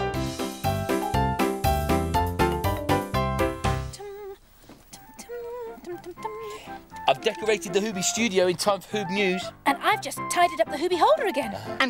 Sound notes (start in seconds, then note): 0.0 childrens music; 3.7 humming